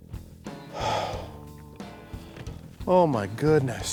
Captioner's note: sighs